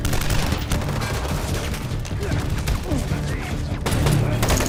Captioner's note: gunfire clacking